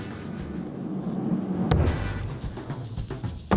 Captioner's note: upbeat music; thud sound; upbeat music